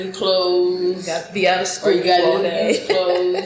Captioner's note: laughs